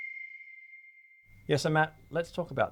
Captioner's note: bell dings